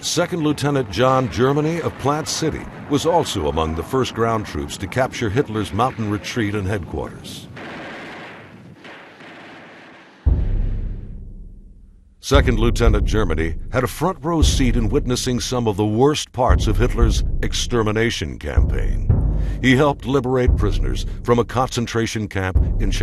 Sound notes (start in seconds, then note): 7.5 guns firing